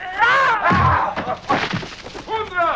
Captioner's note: Hundra grunts; man groans